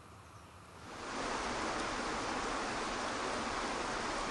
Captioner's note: water rushing